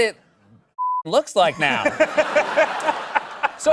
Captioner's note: laughter